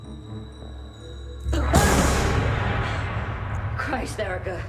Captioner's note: yells